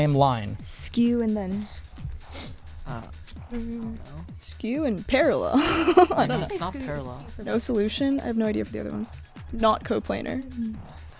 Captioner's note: whispering